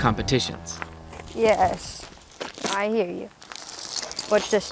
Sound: steers lowing

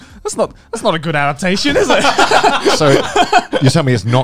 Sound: laughing

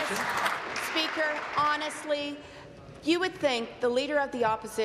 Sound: applause

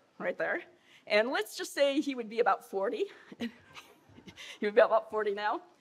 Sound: laughing

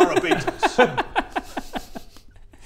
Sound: worrying laugh

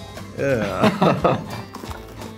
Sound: laughter; chewing

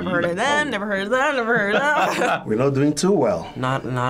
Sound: laughing

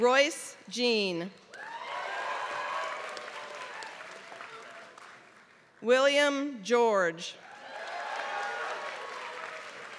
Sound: applause

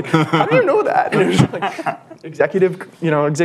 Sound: laughter

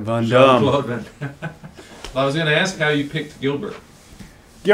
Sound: laughs

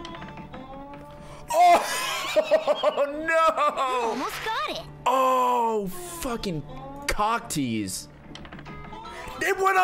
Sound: laughs

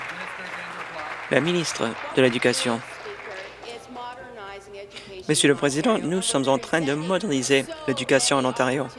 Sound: applause

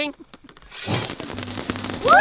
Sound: crackling sound; clash

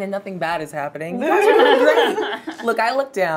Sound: all chuckling

